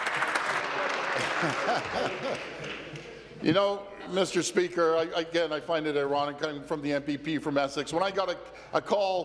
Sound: applause

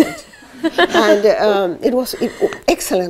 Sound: laughter

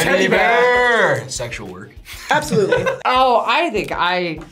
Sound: laughs

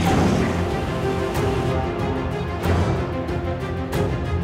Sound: death growls

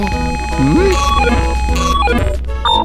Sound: phone beeps

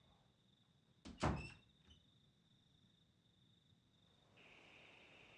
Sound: door slamming

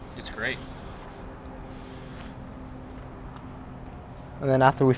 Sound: air whirring

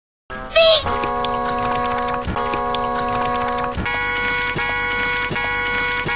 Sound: water Dripping

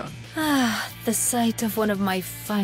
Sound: sighs

